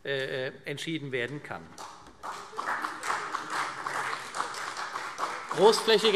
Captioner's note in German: Beifall CDU